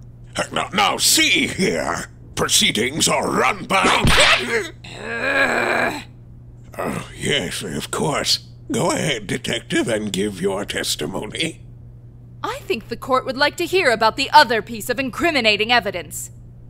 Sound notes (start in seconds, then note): 3.8 whip crack!; 4.9 growling